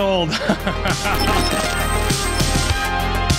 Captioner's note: laughs